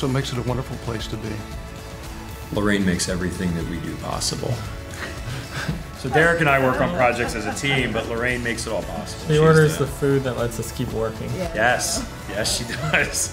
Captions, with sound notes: so it makes it a wonderful place to be. - Lorraine makes everything that we do possible. (laughing) So Derek and I work on projects as a team, but Lorraine makes it all possible. - She orders the food that lets us keep working. - Yes, yes she does.